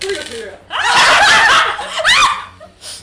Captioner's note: shouting